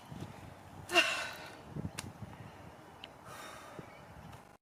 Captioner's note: /Sighs